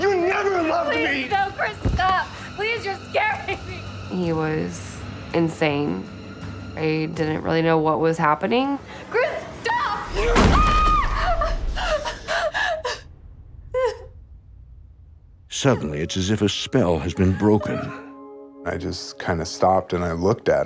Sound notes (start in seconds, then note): 9.6 Whitney screams; 10.9 Whitney sobbing